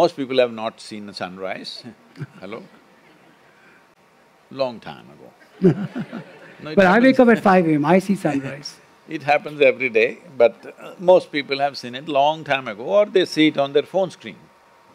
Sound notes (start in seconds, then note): 5.5 laughter